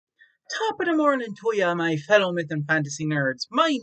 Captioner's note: Irish accent